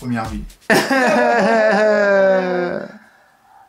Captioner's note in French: Pleurs exagérés